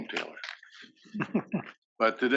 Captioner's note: laugh